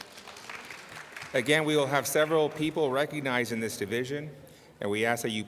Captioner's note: applause